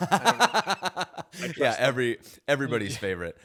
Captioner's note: laughs